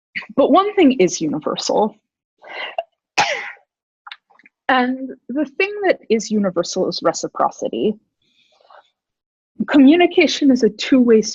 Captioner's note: sneeze